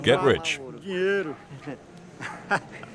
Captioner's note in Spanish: <i>habla en portugués</i>